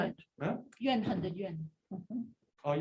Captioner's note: non-english